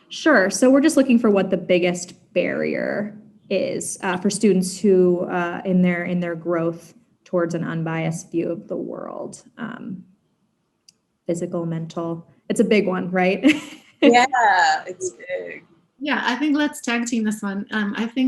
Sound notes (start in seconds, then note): 14.0 laugh